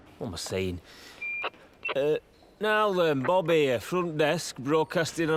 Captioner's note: into walkie talkie